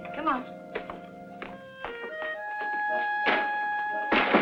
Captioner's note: footsteps pattering; picture frame thumps